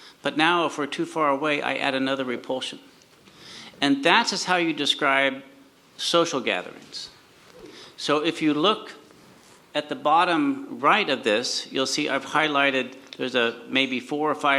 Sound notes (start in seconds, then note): none